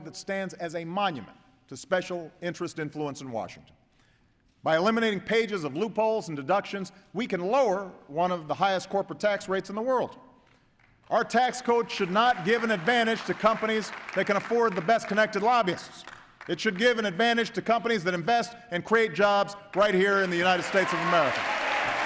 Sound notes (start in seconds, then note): 11.7 applause; 21.8 applause